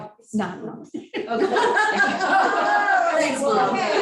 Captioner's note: laughing